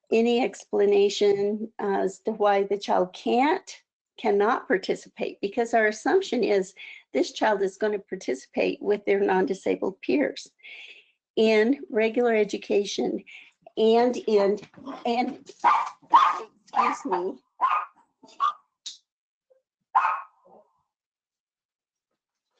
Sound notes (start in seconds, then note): 15.6 dog barking